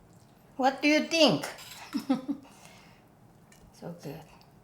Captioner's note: chuckles